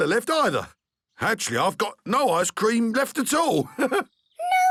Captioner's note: chuckles